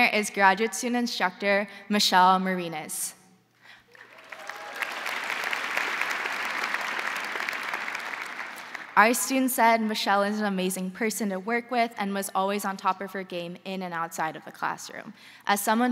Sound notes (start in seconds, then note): 3.9 crowd applauding; 3.9 crowd cheering